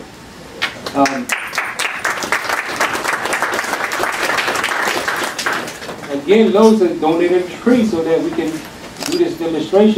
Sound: applause

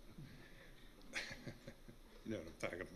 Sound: small laughter

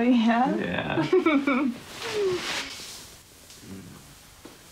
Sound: giggles

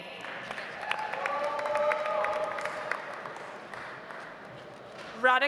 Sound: audience applauds

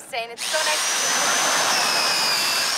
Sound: drilling

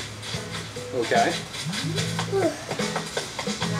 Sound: assistant yawns

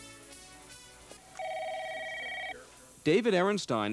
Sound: phone rings in background

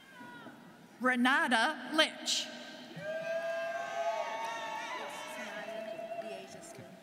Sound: students cheering

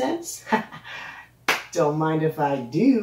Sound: clap

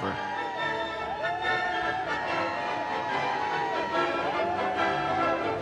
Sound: crowd claps and cheers

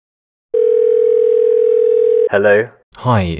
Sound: dial tone

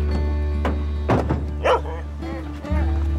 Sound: Dancer barks

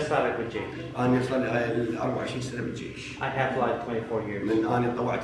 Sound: speaks Arabic

